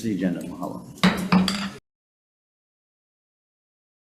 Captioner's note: gavel bangs